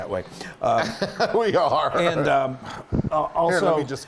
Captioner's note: laugh